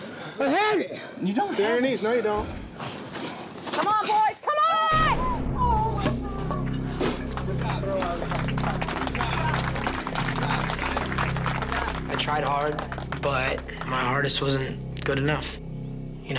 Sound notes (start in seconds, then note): 6.5 group clapping